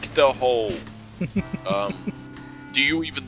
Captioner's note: laughs